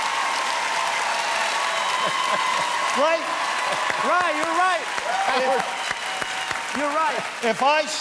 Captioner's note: cheers and applause